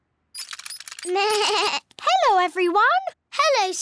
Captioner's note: bleats